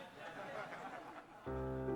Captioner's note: audience chuckling